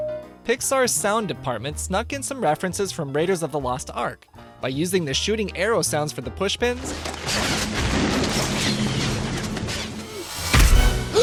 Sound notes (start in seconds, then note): 6.9 high pitched arrow swooshes